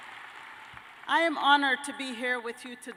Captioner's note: cheers and applause